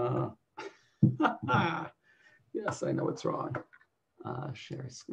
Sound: laughs

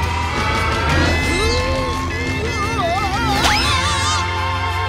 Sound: straining

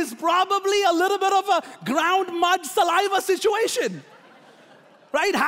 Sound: laughing

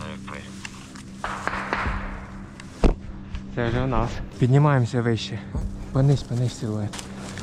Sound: shots

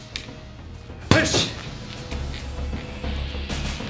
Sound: grunting

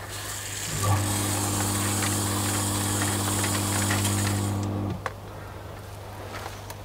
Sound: water spraying; motor buzzing

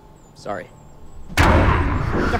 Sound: big bang, growl

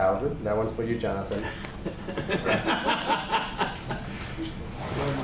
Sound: laughter

